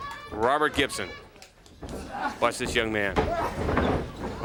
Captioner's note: crowd chatter